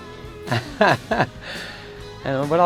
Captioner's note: laughing